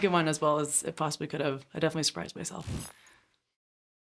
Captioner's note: beeping